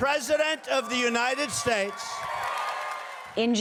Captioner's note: cheering and applause